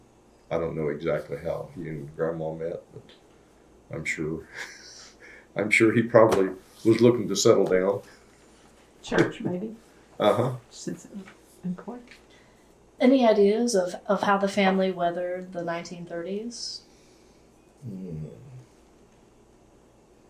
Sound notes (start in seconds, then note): 8.3 laughs